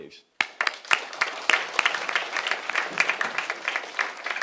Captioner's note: audience applauding